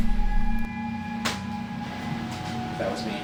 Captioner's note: floorboard creaking